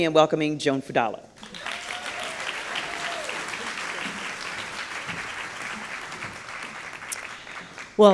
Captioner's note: applause